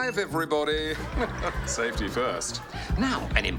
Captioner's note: chuckles; laughter